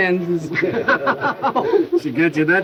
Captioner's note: men laughing